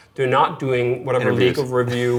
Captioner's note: chuckles